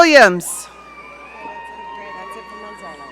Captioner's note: audience cheering